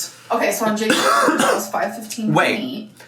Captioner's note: coughs